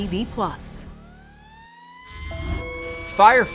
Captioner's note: emergency sirens wail